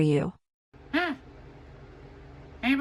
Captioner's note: scoffs